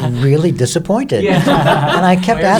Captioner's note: everyone laughing